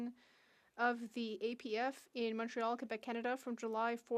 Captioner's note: speaking French